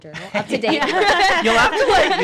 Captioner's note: laughing